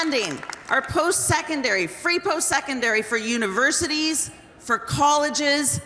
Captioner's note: applause